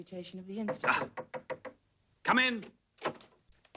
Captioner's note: knocking